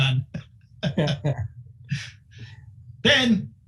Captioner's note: laughing